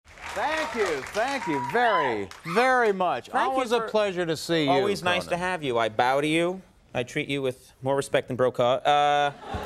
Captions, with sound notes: Thank you. Thank you very, very much. (applause from audience) Always a pleasure to see you. Always nice to have you. I bow to you. I treat you with more respect than Brokaw.